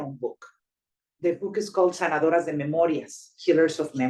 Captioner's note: speaking Spanish